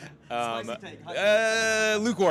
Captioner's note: laughing